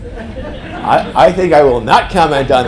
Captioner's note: group laughing